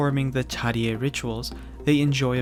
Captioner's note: speaking in Korean language